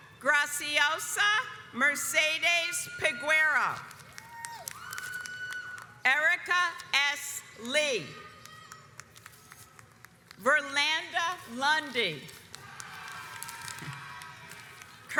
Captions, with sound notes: Graziosa Mercedes Peguiro (audience cheers) Erica S. Lee Verlanda Lundy. (audience cheers)